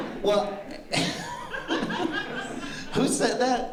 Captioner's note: laughter